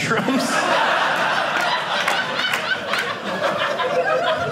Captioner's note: audience laughing